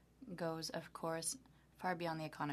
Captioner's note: speaking French